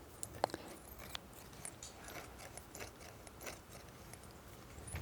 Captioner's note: scissors squeaking